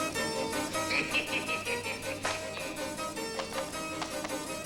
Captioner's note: evil laughter